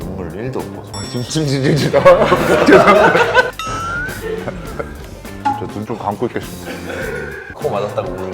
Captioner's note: drools more than he cries